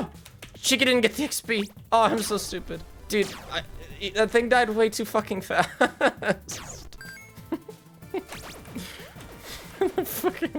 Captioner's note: laughs